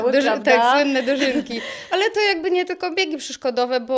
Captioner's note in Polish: śmiech